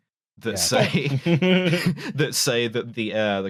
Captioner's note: laughs